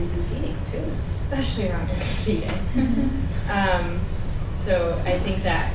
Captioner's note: chuckles